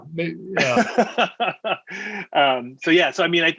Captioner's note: laughing